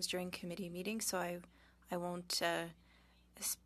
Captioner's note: speaking French